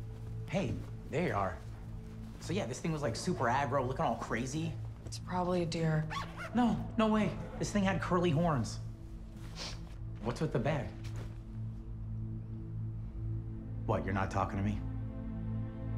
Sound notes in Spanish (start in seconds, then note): 9.4 Sniffles